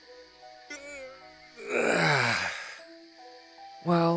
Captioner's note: yawn